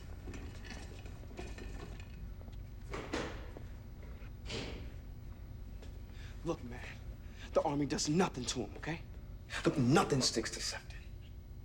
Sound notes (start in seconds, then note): 2.2 door closes